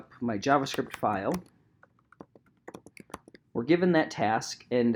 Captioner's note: keyboard clicking